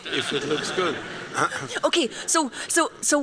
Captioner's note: laughter